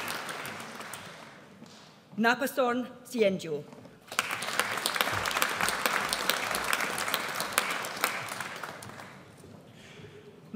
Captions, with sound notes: Napasorn Sae-Ngow. (AUDIENCE APPLAUDS)